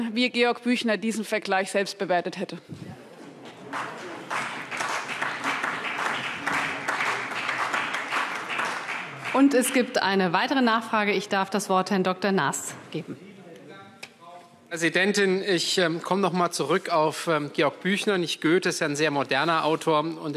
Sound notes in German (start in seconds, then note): 3.2 Beifall CDU und BÜNDNIS 90/DIE GRÜNEN